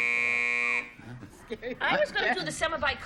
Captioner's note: buzzer